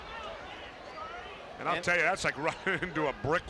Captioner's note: crowd chatter